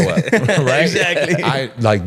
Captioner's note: laughing